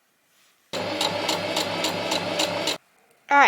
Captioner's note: sewing machine surges